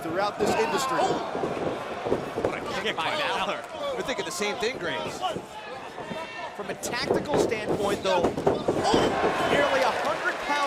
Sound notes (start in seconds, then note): 4.6 crowd chatter